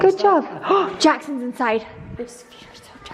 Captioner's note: gasps